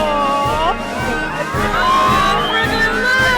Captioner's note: crowd cheers